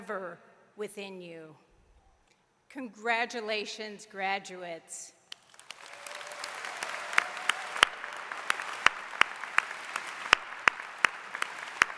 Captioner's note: applause